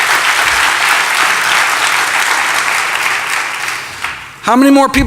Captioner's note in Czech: Potlesk